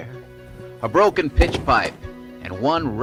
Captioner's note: books falling